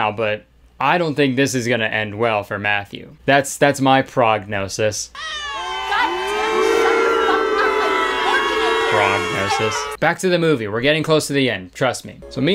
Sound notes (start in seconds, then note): 5.1 crowd booing